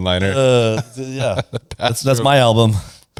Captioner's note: laughs